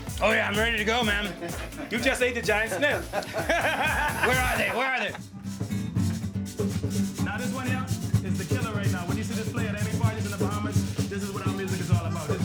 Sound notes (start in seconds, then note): 3.3 laughing